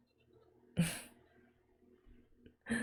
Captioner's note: chuckles